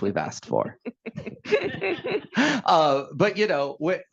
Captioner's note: laughing